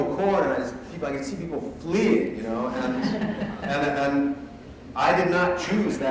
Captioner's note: laughter